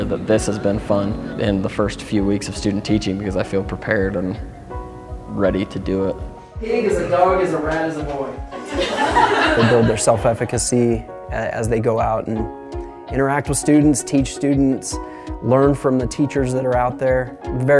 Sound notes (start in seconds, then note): 8.5 laughter